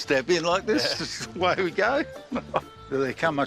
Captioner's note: chuckles